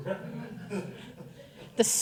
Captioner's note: audience laughing